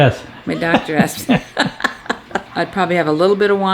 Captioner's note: laughs